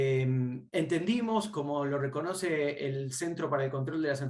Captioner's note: speaking Spanish